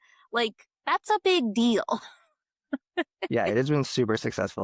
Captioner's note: laughs